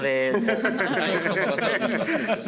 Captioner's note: they laugh